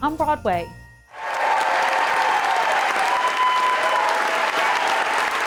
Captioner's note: cheers